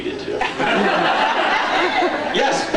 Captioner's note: laughs